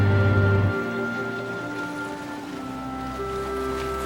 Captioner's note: soft dramatic music continues; waves lapping